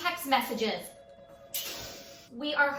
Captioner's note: inhales deeply